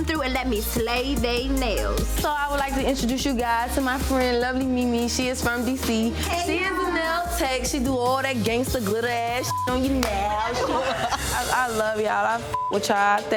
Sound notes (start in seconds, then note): 9.4 beep; 10.0 group laughs; 12.4 beep